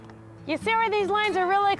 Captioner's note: none